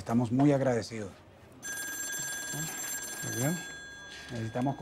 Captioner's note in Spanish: Suena el teléfono